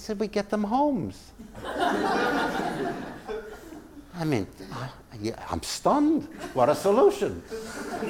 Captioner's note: laugh